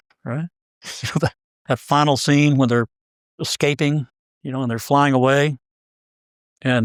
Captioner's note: laugh